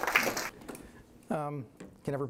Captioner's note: applause